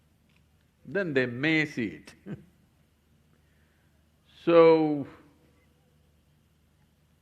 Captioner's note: laughs